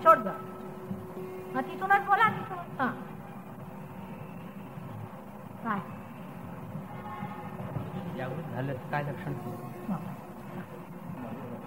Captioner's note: conversation in marathi